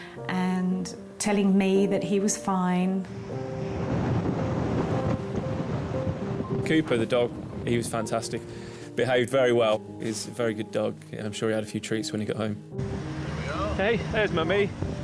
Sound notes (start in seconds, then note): 3.6 gentle music continues; 4.5 wind rustling